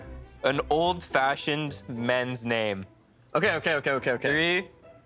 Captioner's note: none